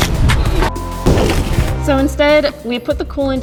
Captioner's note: beeps